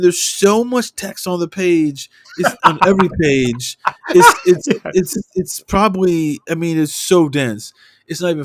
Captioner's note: laughter